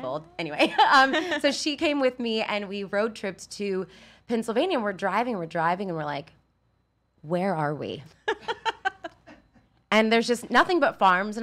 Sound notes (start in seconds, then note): 1.1 laughs; 8.2 laughs